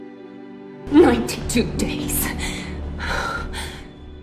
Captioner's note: voiceover